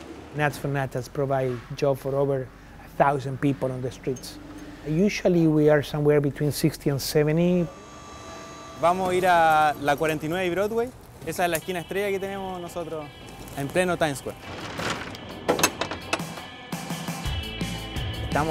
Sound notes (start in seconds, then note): 8.9 machinery whirs; 8.9 speaks Spanish; 15.7 upbeat rock music; 18.3 speaks Spanish